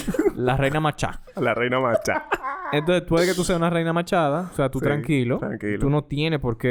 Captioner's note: laughs